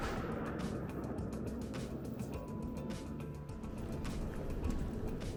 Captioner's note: none